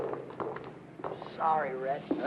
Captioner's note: helmet clattering